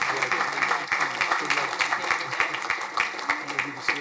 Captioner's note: crowd applauding